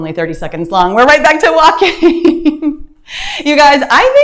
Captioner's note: chuckling